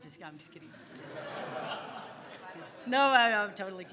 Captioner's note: audience laughing